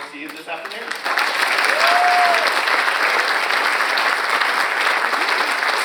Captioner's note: audience applauds